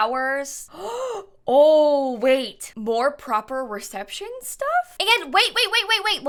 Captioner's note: gasps